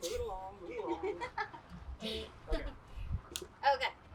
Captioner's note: laughs